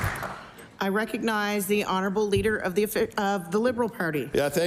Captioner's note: applause